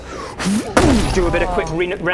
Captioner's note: fffBOOSH!